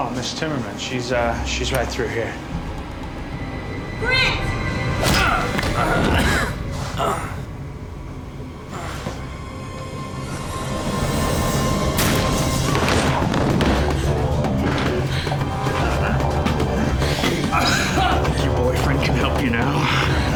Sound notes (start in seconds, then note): 5.1 grunts; 6.9 groans; 17.3 groaning